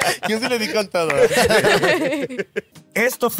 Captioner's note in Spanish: Risas